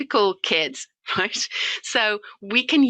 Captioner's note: chuckles